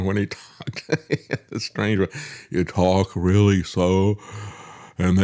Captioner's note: laughs